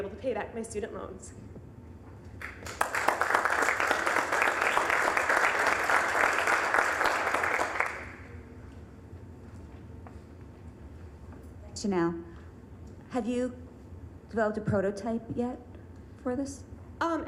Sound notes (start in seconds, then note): 2.4 applause